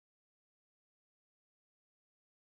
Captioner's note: none